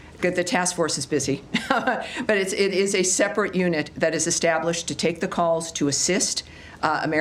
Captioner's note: laughter